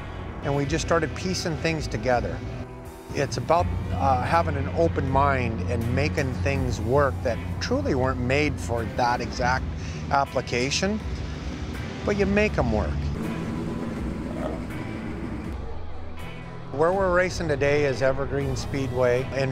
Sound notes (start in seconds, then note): 13.4 engines rumbling